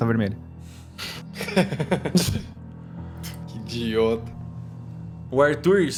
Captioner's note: laughs